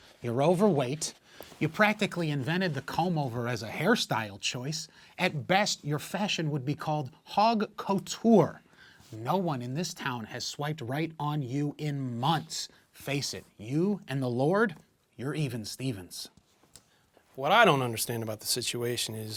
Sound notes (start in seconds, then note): none